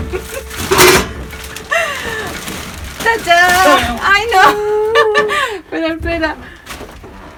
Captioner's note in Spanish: risas